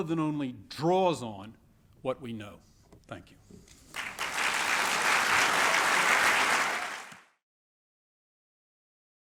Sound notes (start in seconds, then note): 3.8 applause